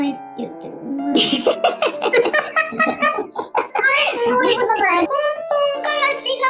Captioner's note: laughs